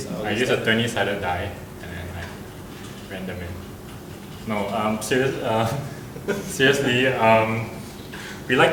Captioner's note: laughs